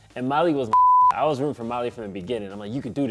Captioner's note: beep